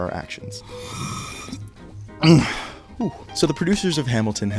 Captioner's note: loud sip from can; grunt